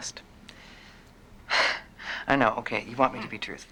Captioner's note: sighs